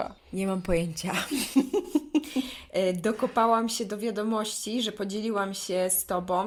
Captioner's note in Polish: śmiech